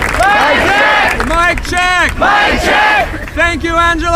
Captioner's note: the crowd repeats all words